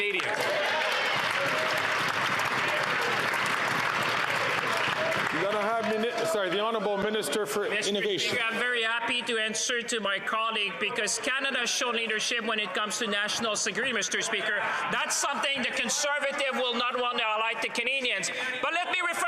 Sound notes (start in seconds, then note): 6.7 some Applause